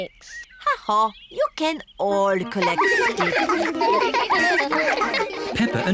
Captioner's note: all giggling